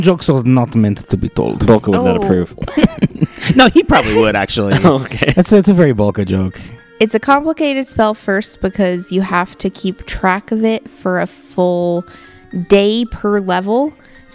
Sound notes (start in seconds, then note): 1.9 laughing